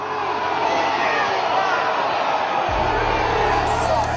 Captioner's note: crowd shouting on video